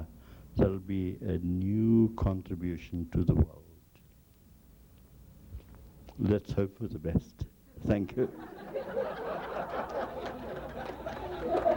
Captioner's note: laughter